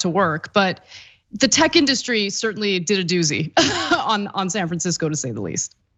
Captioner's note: laugh